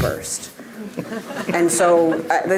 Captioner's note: audience laughing